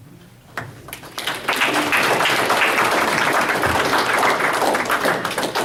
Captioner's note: audience applauds